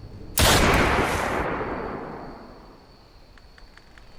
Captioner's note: gun firing